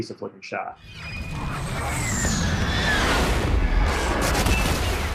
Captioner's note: missiles launching